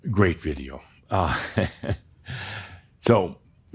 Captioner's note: chuckles